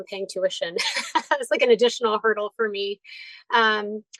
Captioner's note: laughs